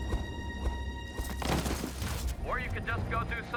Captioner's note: splat!